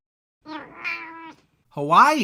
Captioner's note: meow!